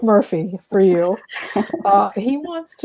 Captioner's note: laughter